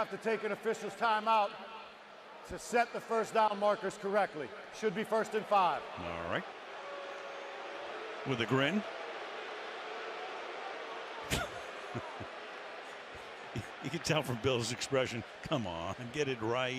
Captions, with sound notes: We have to take an official's timeout to set the first down markers correctly. Should be first and 5. All right. [booing] With a grin. [laughs] You can tell from Bill's expression, come on,